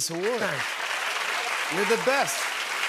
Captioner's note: cheers and applause